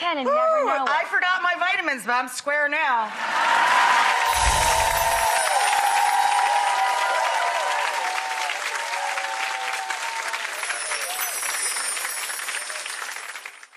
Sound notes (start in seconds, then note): 3.3 audience cheering